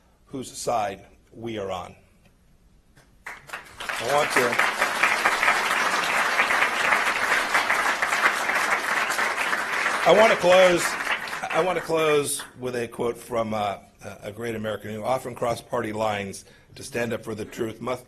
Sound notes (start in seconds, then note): 3.2 applause